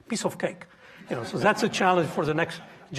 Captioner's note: audience chuckling